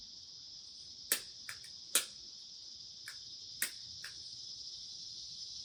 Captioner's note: clicking lighter